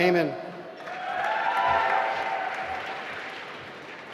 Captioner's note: applause